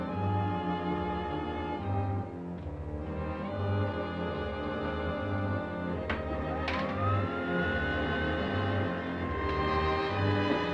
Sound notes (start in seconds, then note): 6.4 machine whirring